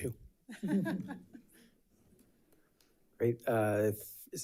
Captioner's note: board members laugh